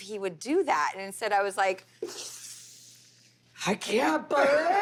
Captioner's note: inhales